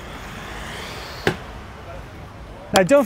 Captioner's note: hydraulic whooshing